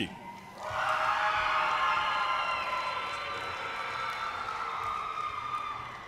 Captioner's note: audience cheers and applause